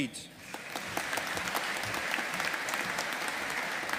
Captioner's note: audience applauding